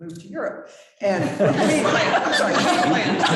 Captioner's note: chuckling